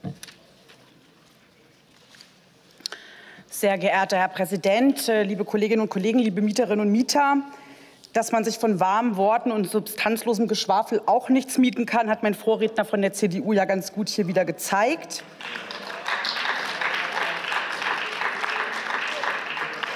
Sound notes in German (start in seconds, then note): 15.2 Beifall